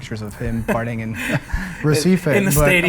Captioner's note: laughter